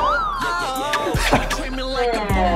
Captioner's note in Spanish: Risas